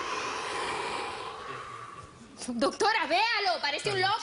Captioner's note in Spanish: Exhalación profunda de él